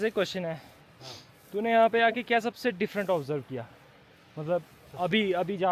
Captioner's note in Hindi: नाक से की जाने वाली आवाज़